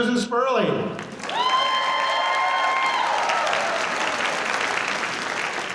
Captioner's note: applause